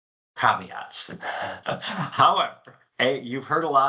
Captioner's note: chuckles